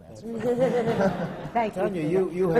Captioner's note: laughter